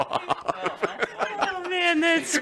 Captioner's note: laughter